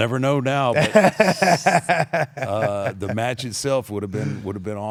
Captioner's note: laugh